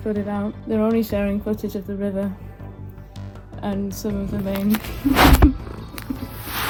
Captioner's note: laughs at Maple